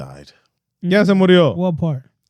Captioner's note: speaking In Foreign Language